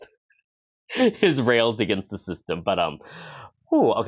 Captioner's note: laughs